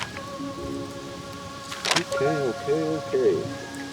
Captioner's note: leaves rustling